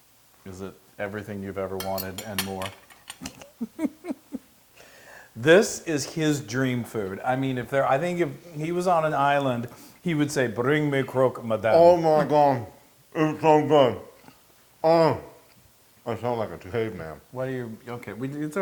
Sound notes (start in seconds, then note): 3.2 laugh